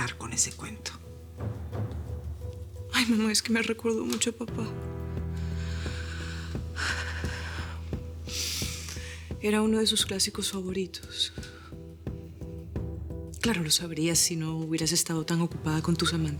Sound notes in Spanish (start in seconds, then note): 9.9 Solloza